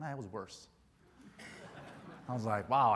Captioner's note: crowd laughs